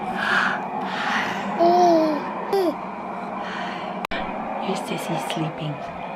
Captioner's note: baby chatting